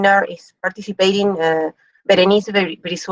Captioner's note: speaks in foreign language